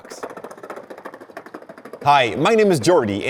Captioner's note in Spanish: Sonido de monopatín